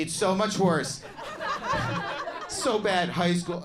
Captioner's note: crowd laughs